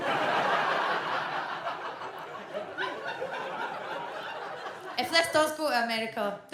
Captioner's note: audience laughs